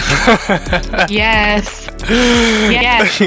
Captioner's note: laughing